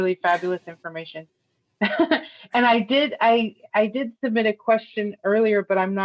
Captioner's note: laughter